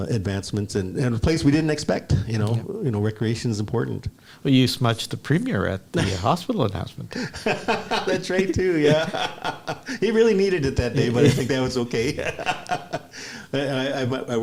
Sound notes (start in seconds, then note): 7.1 laughs